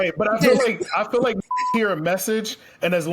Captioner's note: beep